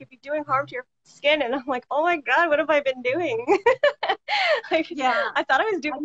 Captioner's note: laughs